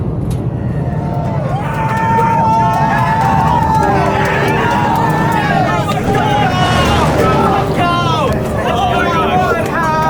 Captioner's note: cheering